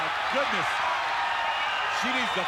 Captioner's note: crowd cheering